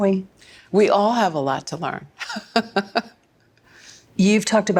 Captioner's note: laughs